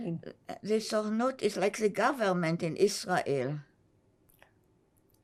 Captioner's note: hebrew